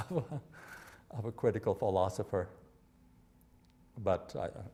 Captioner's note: chuckling